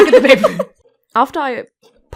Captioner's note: Rover and Zoe laugh; stutters